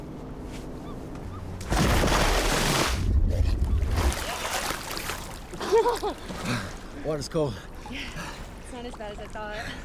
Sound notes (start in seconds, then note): 1.6 water splashing; 5.6 April giggles